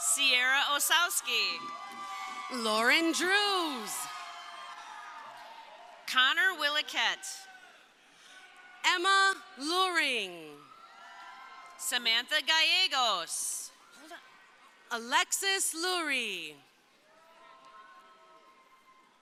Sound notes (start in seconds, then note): 0.0 crowd cheering; 17.0 crowd cheering